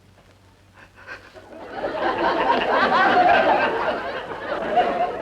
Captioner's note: audience laughing